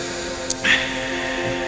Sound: lip smack

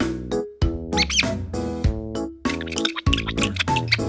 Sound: squeaking

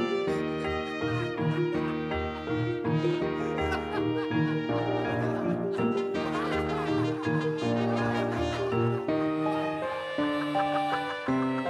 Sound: audience laughter

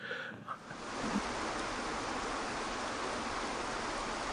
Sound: water rushing

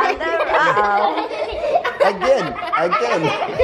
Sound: children laughing

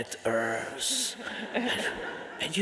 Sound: audience laughing

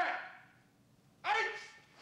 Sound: yells

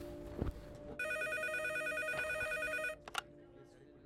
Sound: phone rings

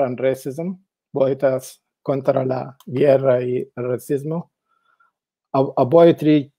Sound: speaks in foreign language

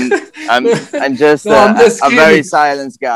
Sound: laughing; laughs

